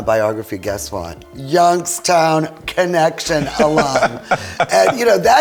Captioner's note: laughing